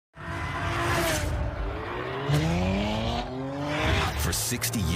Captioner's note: engine Revving